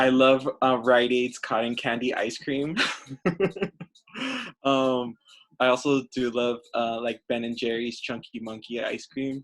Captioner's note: laughs